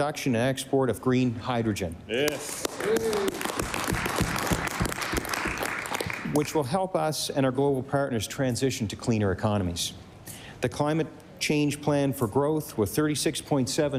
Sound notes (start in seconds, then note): 6.3 applause